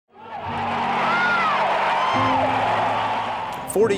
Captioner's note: applause